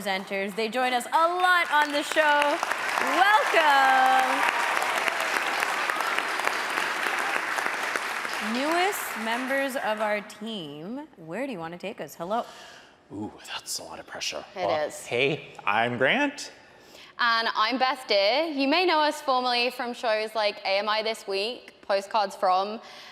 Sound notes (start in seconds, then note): 2.0 applauding; 2.0 audience applauding; 4.3 audience applauding; 4.3 audience cheering